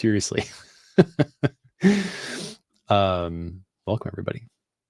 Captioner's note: laughing